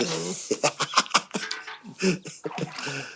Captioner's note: giggle